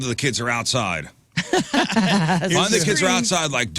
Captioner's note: laughing